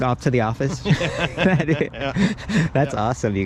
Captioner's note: laughing loudly